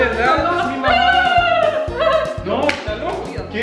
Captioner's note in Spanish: Risa burlona